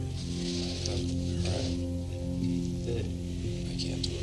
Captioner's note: whispering